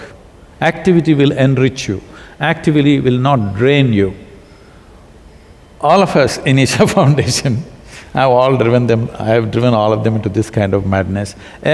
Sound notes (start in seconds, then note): 7.2 laughs